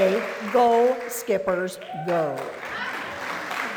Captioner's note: applause